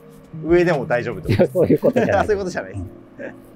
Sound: laughing

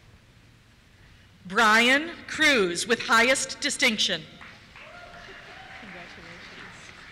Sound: cheers

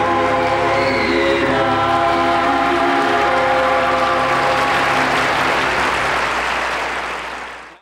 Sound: audience applauds

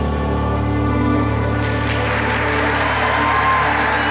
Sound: audience clapping

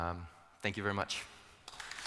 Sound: applause

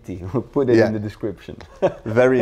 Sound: laughs

